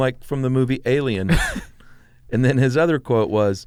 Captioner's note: laughs